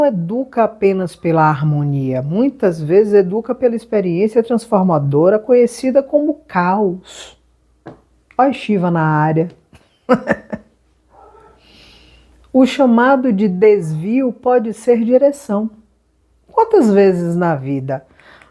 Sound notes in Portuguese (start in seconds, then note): 9.7 risadas